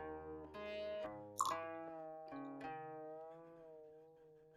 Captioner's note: tea water pouring